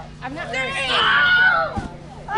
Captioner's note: screams